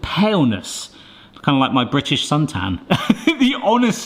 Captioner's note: laughs